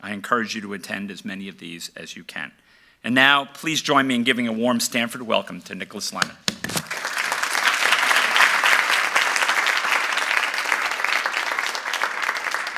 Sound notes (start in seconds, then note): 6.8 applause